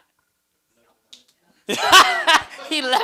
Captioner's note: laughter